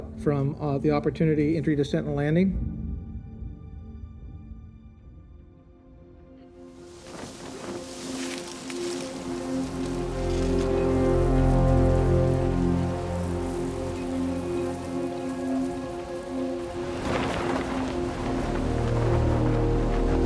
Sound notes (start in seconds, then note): 3.5 soft music; 7.2 wind whoshing